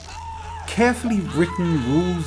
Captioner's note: painful screams